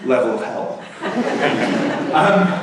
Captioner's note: laughter